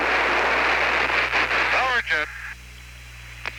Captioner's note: static ends; followed by burst of static